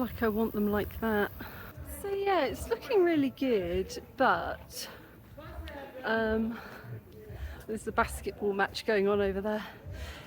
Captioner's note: shouting